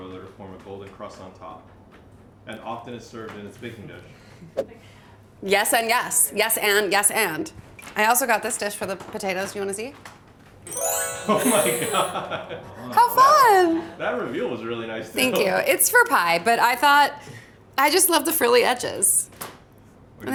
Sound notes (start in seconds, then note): 10.6 twinkling music; 12.7 laughs